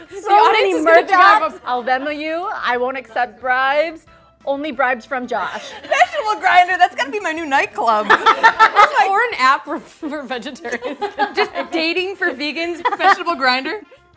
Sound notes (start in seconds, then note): 7.9 laughing; 13.9 upbeat horn music